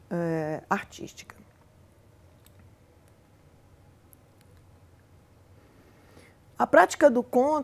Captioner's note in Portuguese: silêncio